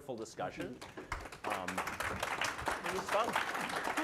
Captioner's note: applause